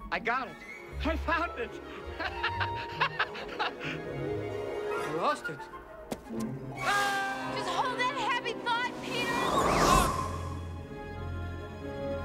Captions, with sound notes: I FOUND IT! ( laughing ) I LOST IT. JUST HOLD THAT HAPPY THOUGHT, PETER!